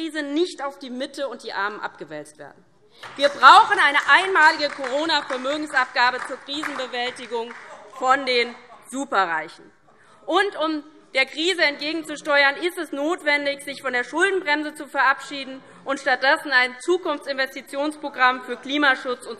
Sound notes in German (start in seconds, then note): 3.0 Beifall DIE LINKE